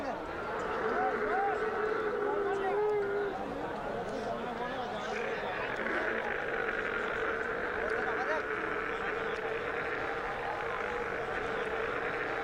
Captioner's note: murmullos